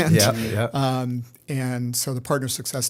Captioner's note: chuckle